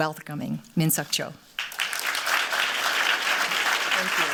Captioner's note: applause